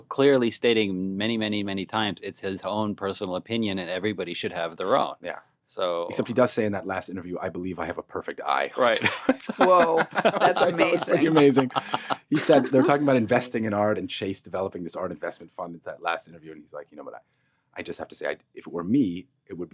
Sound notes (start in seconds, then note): 8.8 laughing; 11.9 all laughing